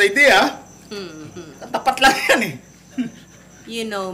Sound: chuckles

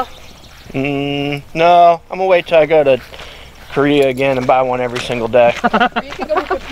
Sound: laugh

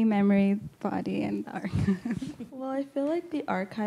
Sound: laughs

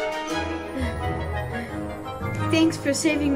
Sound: Glasses panting

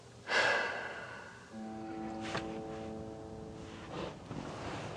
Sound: Amanda exhales deeply

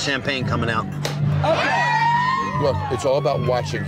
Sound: cork popping; patrons cheering

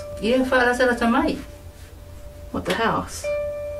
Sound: speaking in Samoan

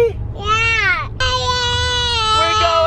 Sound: yells

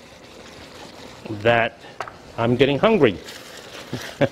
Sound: chuckles

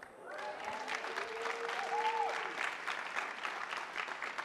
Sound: attendees applauding

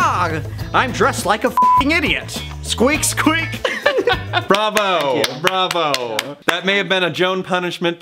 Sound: claps

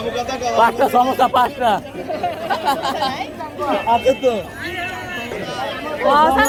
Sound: laughter

